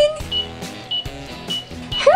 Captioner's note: timer beeps